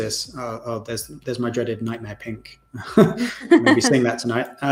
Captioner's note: laughs